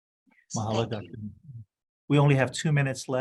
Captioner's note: audio distorting